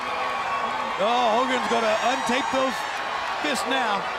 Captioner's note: crowd chattering